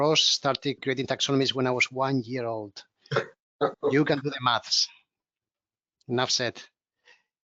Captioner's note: laughs